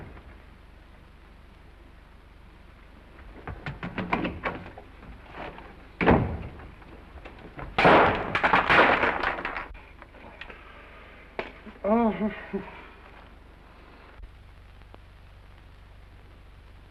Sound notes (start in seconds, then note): 3.2 feet scramble & door opens; 6.0 door closes; 7.7 light bursts; 11.7 Randall groans